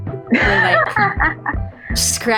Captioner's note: laughs